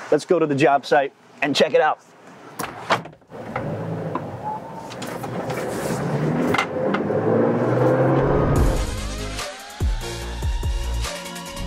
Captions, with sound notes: Let's go to the job site and check it out. (car revving) (electronic music)